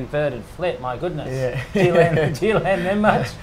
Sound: laughs

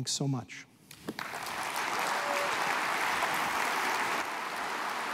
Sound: applause

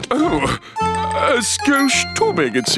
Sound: grunting

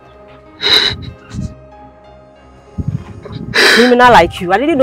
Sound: crying

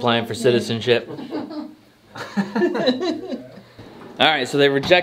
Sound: laughing

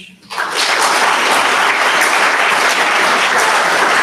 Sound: audience applauds

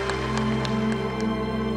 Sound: applause

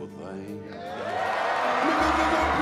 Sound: audience cheers

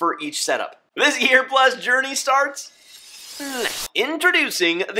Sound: whoosh

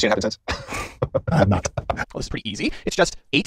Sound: chuckles

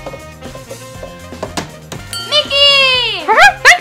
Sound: bell rings

